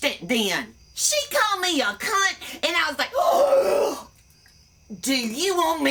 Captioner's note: gasp